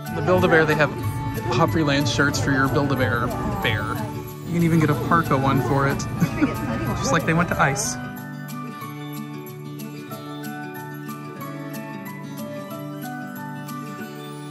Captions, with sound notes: At Build-A-Bear they have Opryland shirts for your Build-A-Bear bear. You can even get a parka one for it. (Laughs) Just like they went to ICE!